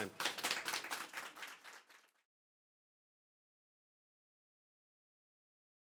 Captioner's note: audience applauding